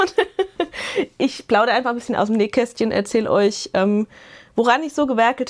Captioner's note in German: Gelächter